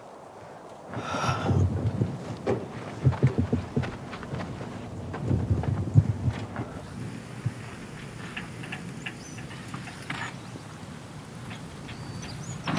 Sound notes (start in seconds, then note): 1.0 Dayne sighing; 2.7 truck clattering; 9.2 birds chirping